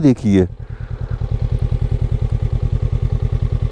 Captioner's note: engine thrum